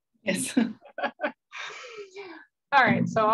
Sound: laughing

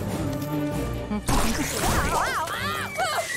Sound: screaming

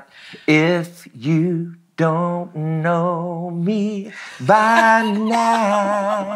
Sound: laughing

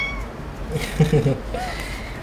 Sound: chuckling

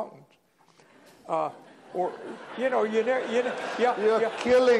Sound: laughter

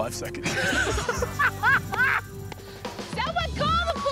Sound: laughter

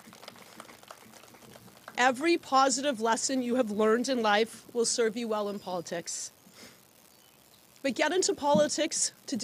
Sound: applause

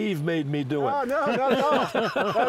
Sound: laughs

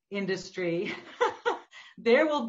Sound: laughs

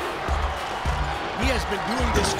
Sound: cheering

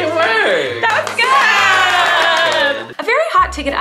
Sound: people cheering

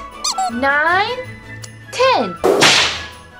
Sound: comical duck squeak

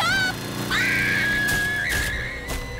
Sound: screaming

